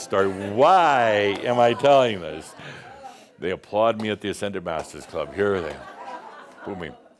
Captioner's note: chuckles; some chuckles